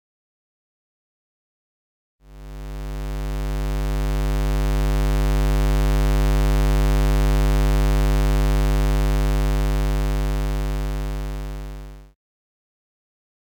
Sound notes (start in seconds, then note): 2.3 square wave sound